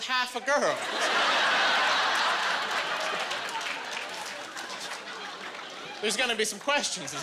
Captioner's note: laughing